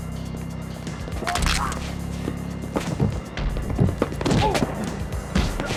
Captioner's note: neck snaps; man grunts; blows thudding